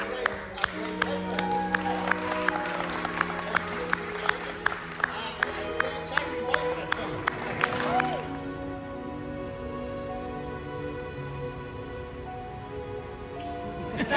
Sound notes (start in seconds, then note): 0.0 applauses; 2.0 applauses; 7.2 applauses; 8.4 sad music